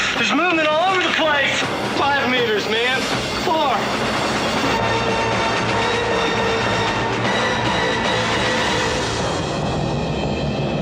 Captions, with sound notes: There's movement all over the place. Five meters, man. Four. [TIRES SQUEALING]